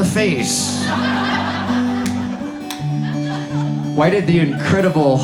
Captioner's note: audience laughs